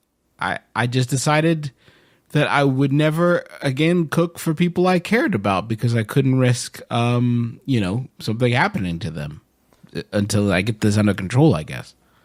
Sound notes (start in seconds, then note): none